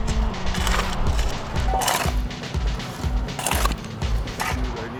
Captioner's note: shovel scrapes